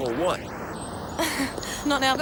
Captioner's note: Jodie laughs